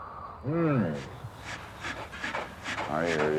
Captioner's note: bear grunting and huffing